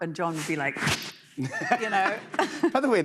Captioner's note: whoosh